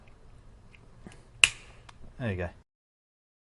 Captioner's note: pop